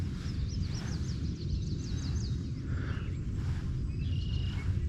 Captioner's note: birds chirping